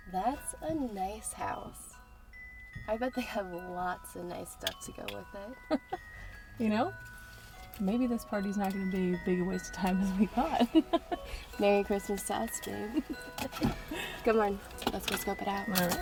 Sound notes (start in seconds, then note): 6.0 laughing; 10.3 laughing; 12.6 Sarah laughing